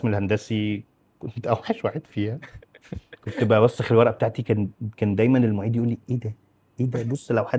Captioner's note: laughs